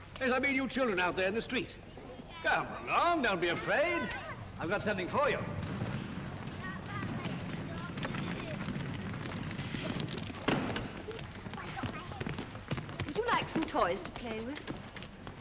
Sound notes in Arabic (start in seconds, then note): 6.0 عربة تهدر; 10.1 عربة تنزل بصوت قعقعة; 11.1 أقدام تجري